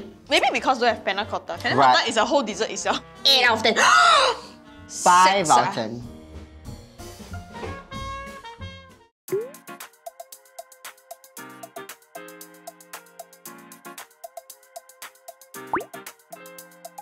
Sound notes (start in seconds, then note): 4.2 gaspppp